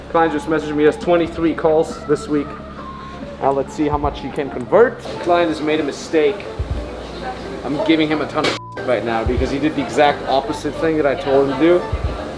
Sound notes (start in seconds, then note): 8.5 beep